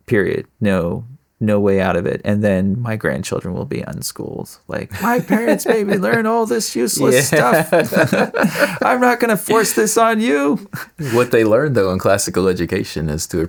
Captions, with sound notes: Period. No way out of it. And then, my grandchildren will be on school. Like, "I can't even learn all this useless stuff. (Laughing) I'm not gonna force this on you." What they learned, though, in classical education is to